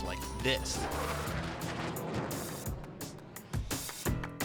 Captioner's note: jet engine roaring; upbeat music